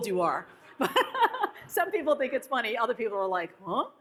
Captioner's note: laughs